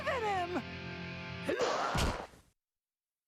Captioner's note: grunting